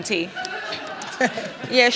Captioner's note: audience laughs